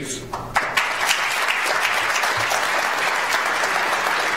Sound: audience applauds

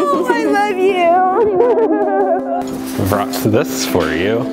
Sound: laughs

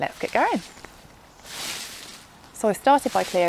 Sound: crunchy leaves

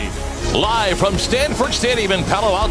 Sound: voiceover

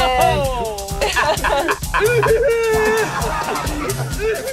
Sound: both laugh; laughs

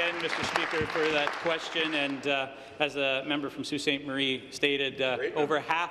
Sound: applause

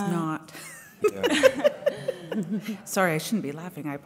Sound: laughs

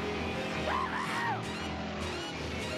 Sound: gasping

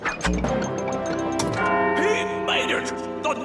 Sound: clock bell rings

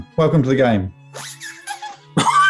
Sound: squeaking; laughter

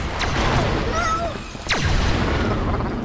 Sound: whooshing; wall-e screaming in alarm

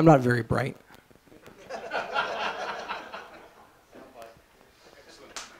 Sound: laughter

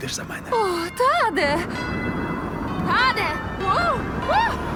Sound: church bells ringing; yelping

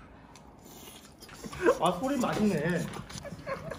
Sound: chewing fast so he can swallow faster

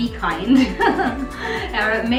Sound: laughing

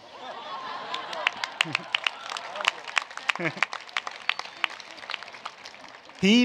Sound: laughter with applause

